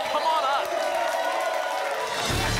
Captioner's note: applause and cheering cont